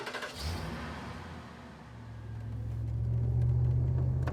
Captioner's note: car engine starting